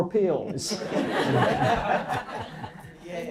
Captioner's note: laughs